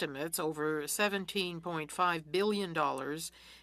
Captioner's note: speaking French